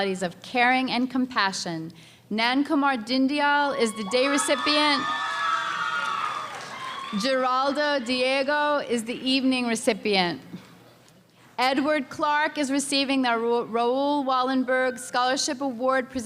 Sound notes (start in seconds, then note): 3.9 cheering and screaming